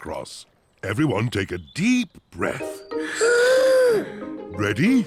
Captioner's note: all inhale